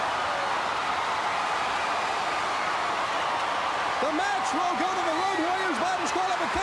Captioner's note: crowd cheering